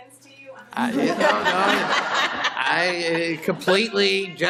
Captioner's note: laughter